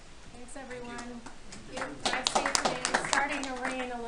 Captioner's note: attendees applauding